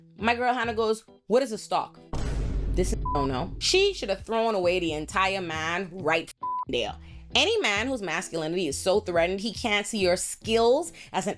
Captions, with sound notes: My girl Hannah goes, what is a stock? This is (beep) She should have thrown away the entire man right (beep) there. Any man whose masculinity is so threatened he can't see her skills as